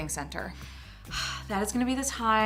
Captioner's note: sighs